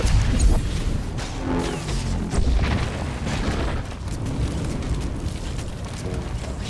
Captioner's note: explosion